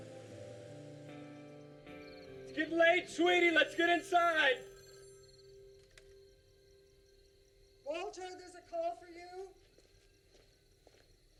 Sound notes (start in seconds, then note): 4.7 phone rings